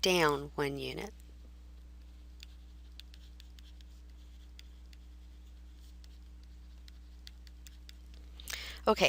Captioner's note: writing